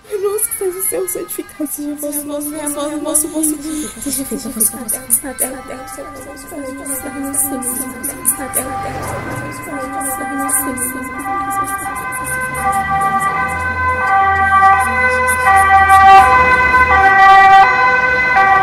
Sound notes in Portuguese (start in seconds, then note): 3.1 Mais ambulâncias se aproximam